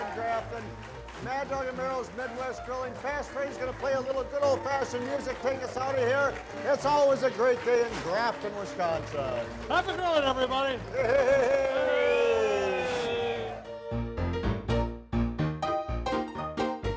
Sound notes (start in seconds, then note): 9.9 group cheers; 12.6 lively music